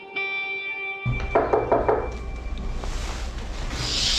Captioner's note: knocking